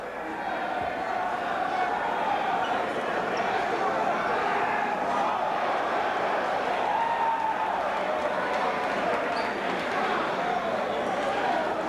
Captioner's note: crowd chatter